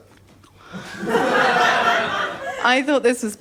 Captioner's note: laughter